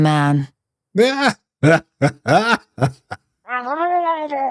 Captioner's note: laughs